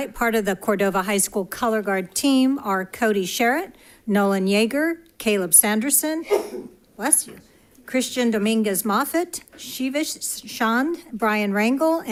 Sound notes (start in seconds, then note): 6.2 attendant sneezing